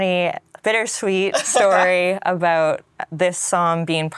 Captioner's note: laughs